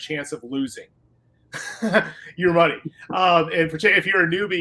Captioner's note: laughter